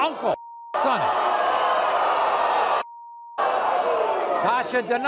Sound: audience boos

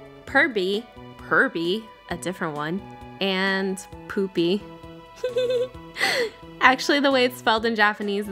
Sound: giggles

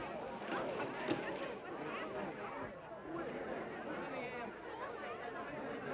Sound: people chattering

